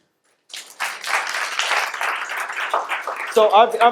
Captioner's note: audience applauds